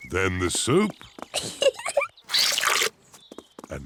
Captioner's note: giggles